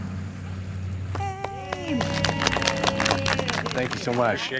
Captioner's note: crowd applauding